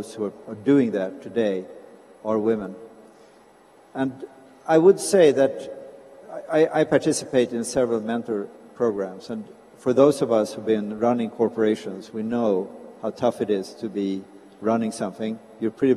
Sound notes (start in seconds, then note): none